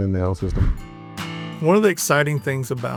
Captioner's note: transition whooshing